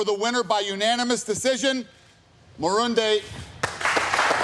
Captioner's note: cheers and applause